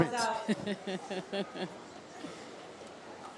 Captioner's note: laughs